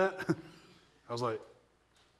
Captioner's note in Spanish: se rie ligeramente